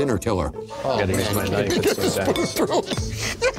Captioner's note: laughs; chuckles